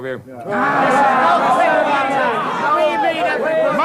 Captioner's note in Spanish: Gritos